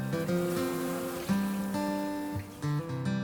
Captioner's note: gentle music; bees buzz